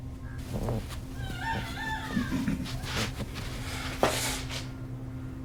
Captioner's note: Wilhelmina yelling